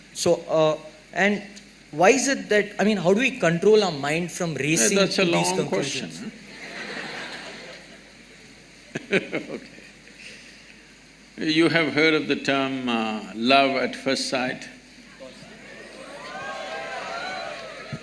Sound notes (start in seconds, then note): 6.4 laughter; 8.9 laughs